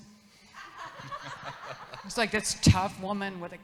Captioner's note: audience laughs